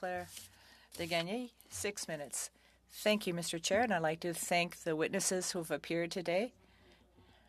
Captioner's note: speaking French